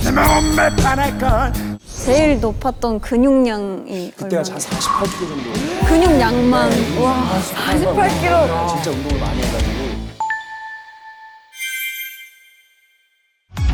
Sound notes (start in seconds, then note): 7.4 murmurs